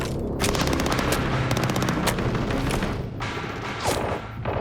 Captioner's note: gunfire